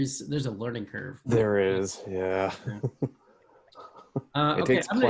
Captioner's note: laughs